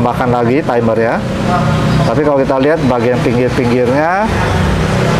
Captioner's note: praying sound; motorcycle noise